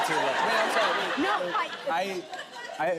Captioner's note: stammering